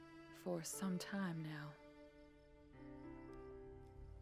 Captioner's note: crickets chirping